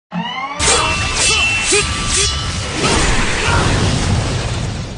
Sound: ninja swords clash

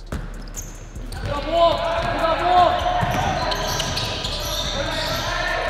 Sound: overlapping chattering

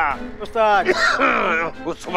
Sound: coughs

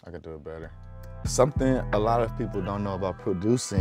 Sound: none

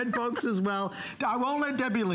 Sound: laughter

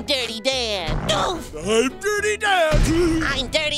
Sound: grunting

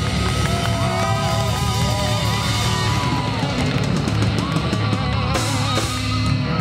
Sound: audience cheers and applauds

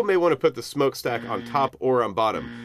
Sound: buzzer

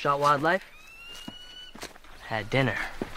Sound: bird chirping

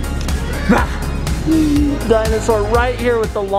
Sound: laughs

